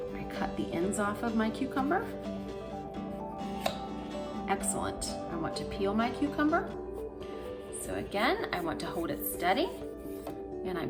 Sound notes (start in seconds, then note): 3.4 knife clacking